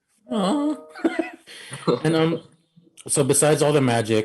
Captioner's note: chuckling